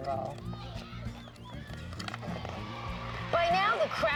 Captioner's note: kids cheering